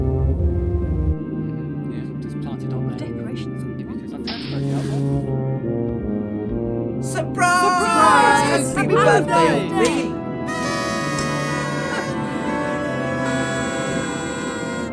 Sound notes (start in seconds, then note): 1.2 crew muttering; 10.4 party horns